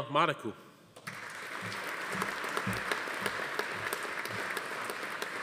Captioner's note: audience applauding